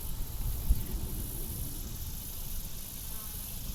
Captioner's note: insects chirp